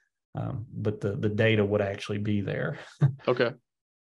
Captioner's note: chuckles